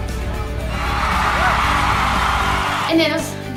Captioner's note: cheering